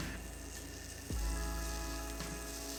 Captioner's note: sound of mixture bubbling